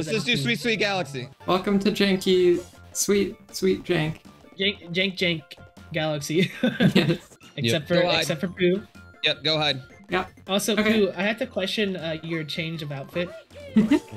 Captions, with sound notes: Let's just do Sweet Sweet Galaxy! Welcome to janky... Let's just do Sweet Sweet Galaxy! Welcome to janky... Sweet... Sweet Jank Jan- Jank Jank Galaxy [Laughs] Jan- Jank Jank Galaxy [while laughing] yes [Laughs] Jan- Jank Jank Galaxy [while laughing] yes [Laughs] [while laughing] yes Except for Poo Yep, go hide Yep Also Poo, I have to question uh... your change of outfit [Snicker]